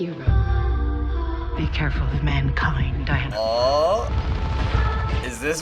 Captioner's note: excitedly